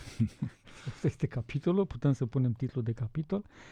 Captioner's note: laughter